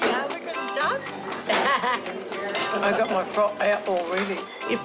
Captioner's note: laughs